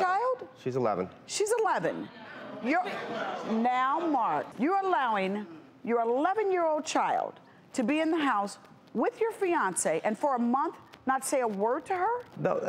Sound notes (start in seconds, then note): 2.0 audience chattering